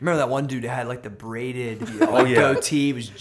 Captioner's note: laughter